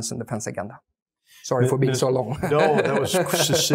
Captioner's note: laugh